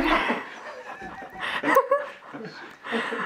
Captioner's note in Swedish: Skratt